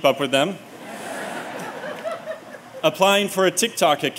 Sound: laughter

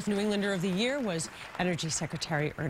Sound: applause

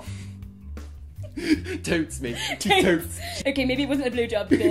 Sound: laughing

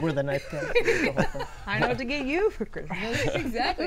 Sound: laughing

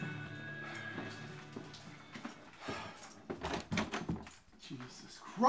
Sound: exhales, footsteps

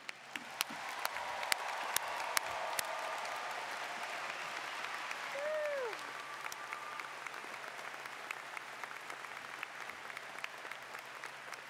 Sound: cheers and Applause

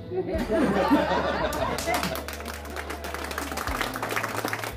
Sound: cheering and applause

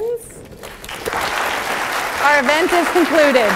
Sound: applause

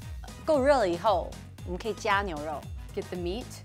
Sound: speaks mandarin

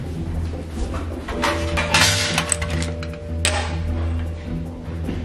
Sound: dominoes clacking

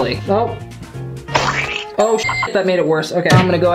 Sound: beep

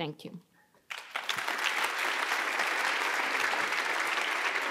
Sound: audience applauding

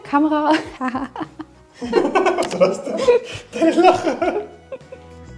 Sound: laughing

